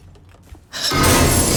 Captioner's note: small gasp